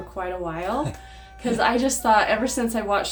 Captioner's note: chuckles